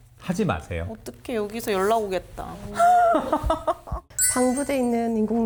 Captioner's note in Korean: 웃음